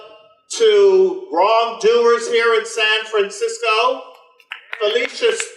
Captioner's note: audience applause